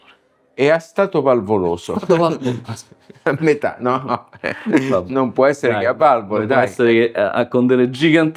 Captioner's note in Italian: risate